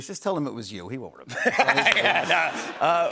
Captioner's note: laughter